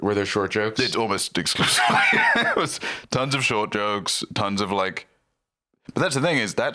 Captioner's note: laughs